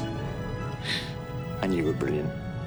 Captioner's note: emotional inhale